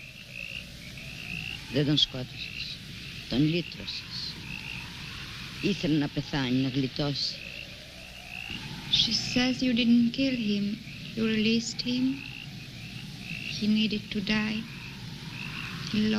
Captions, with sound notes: (speaking in foreign language) - She says you didn't kill him, you released him. He needed to die, he longed to rest.